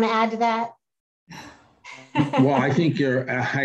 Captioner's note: laugh